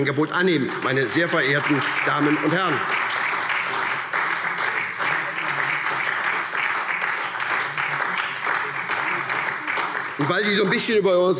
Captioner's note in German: Beifall SPD